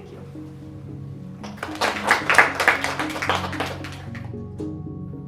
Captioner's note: clapping